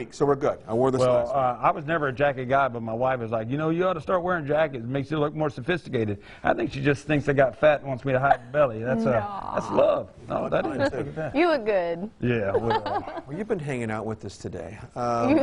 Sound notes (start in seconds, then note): 10.4 chuckling